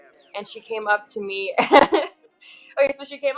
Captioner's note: laughs